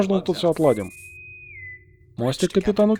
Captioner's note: свист интеркома